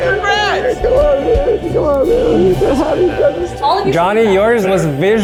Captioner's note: sobs